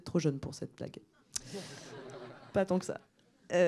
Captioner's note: laughs